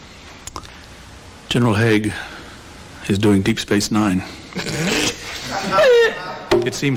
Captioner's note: offscreen laughter